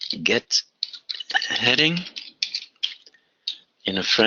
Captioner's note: typing